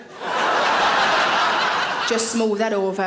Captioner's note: audience laughing